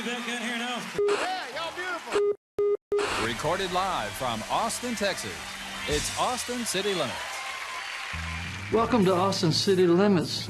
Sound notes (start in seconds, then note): 1.0 beeping TV static; 2.9 TV screen beeping